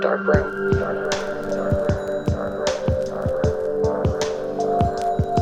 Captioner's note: space echo!